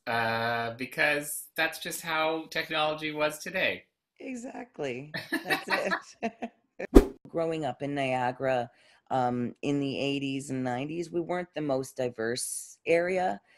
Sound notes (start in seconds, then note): 5.2 laughs; 6.9 whoosh